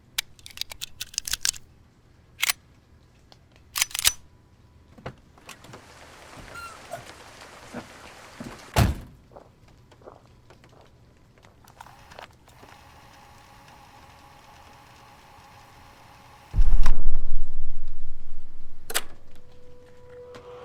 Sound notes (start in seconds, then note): 0.2 A gun loading and cocking; 5.1 car door closes; 5.1 car door opens; 9.0 cassette player motor whirs, stops; 9.2 footsteps moving away; 16.6 explosion; 18.8 click